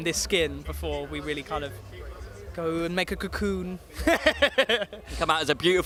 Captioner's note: laughs